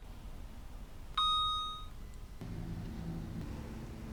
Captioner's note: dings